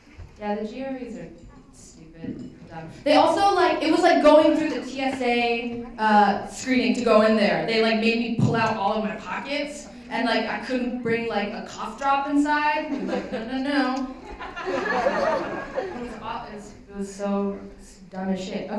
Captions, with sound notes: Yeah, the GREs are stupid and dumb. They also-- it was like going through the TSA screening to go in there. They like made me pull out all of my pockets. And I couldn't bring like a cough drop inside. They were like, no, no, no. [LAUGHTER] It was so dumb as shit.